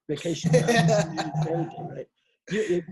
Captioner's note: laughs